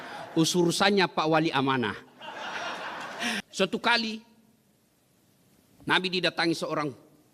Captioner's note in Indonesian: tertawa